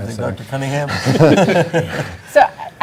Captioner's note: laughing